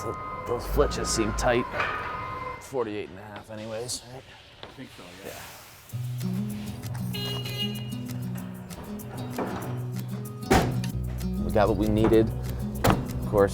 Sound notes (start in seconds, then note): 7.0 forklift truck honking